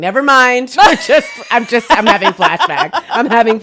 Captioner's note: cackles